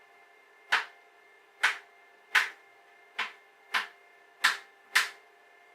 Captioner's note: clicking of grommet